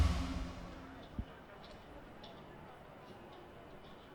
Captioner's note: crowd murmering